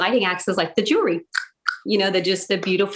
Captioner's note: mouth clicking